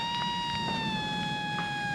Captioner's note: power drill buzzing